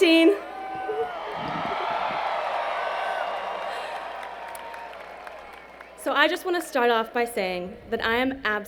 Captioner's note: cheers and Applause